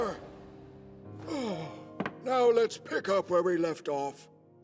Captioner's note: exhale